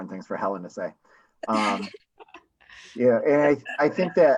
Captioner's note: laughs